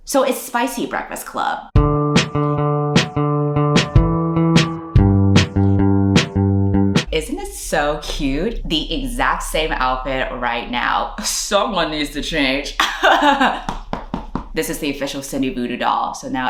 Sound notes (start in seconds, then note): 1.8 intro music; 12.7 laughs